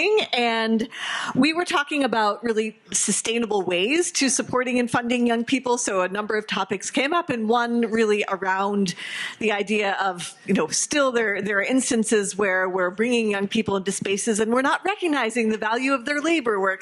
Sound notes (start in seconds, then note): none